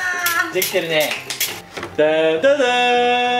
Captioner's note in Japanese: 拍手